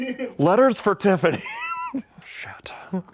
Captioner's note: laughs